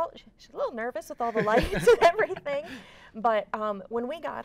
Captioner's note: laughs